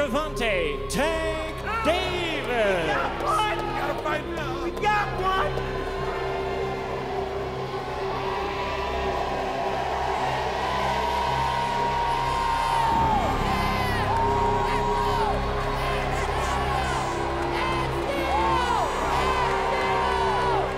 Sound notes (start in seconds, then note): 6.4 cheering